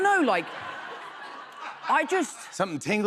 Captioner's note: laughter